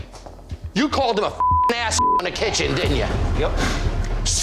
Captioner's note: beep